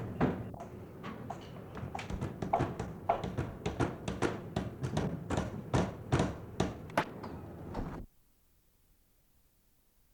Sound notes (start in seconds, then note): 0.0 hammering